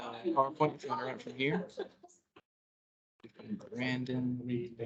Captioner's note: indistinct chatter